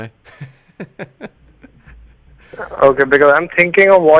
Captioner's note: laughs